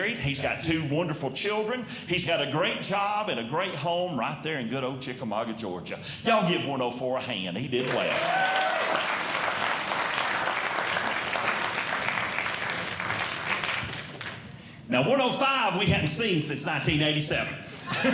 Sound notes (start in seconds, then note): 7.8 audience Clapping